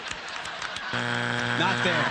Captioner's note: buzzer